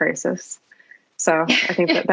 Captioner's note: laugh